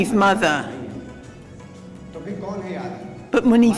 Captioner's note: non-english speech